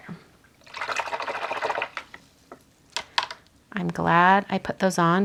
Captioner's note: water gurgles